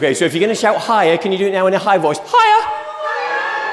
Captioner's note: audience, in squeaky voices: "HIGHER!"